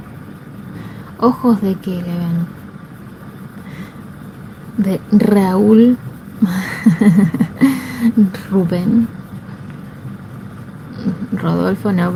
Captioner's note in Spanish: risas